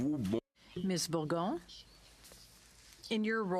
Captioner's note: speaking French